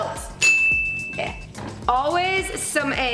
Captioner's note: dings